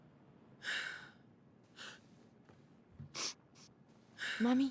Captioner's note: crying and sniffling